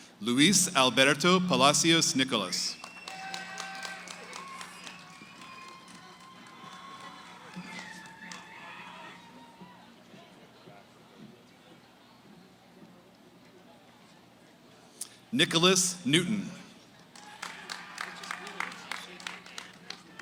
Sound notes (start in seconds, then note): 0.0 background conversations; 2.7 cheering, applause; 9.5 background conversations; 17.0 cheering, applause